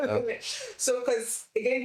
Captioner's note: laughter